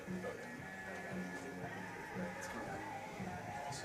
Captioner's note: indistinct chatter